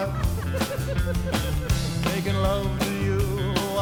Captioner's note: hosts laughing